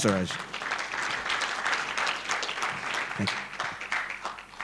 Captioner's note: applause